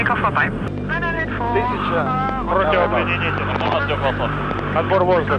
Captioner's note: speaking foreign language